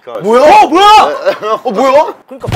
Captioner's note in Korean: 시끌시끌